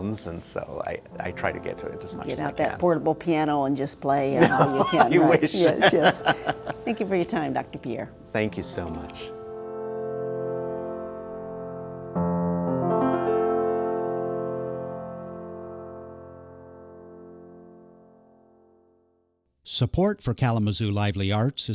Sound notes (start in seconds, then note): 4.4 laughs; 10.2 calm piano music